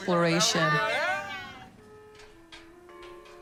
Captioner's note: everyone cheers and laughs; gentle music